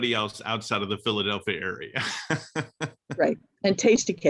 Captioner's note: laughs; laughs